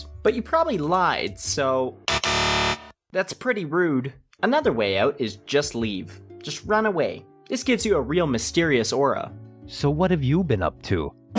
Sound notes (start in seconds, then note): 2.0 incorrect buzzer sound